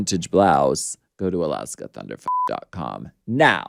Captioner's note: beep